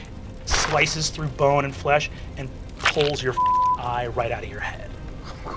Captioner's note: beep